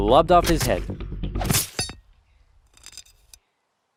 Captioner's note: slice sounds; silence